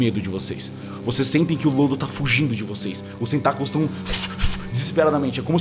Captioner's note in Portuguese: <i>fush fush</i>